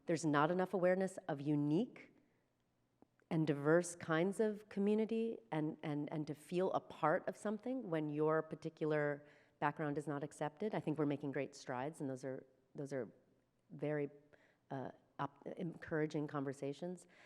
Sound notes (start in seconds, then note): none